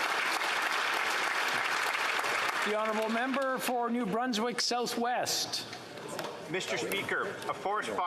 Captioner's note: applause